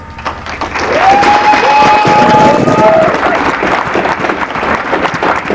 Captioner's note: applause